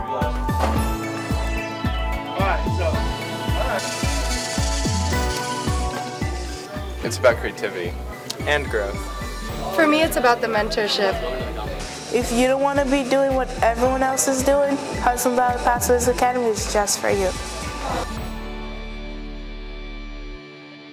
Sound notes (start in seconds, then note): 0.1 upbeat music; 4.3 machinery whirring; 18.3 gentle music